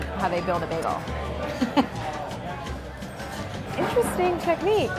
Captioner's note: laughing